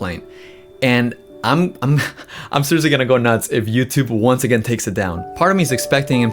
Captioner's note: laughs